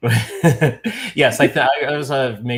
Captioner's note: laughing together